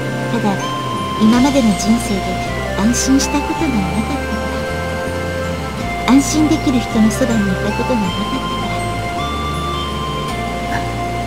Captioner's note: rain